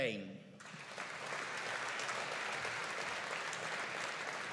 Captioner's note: audience applauding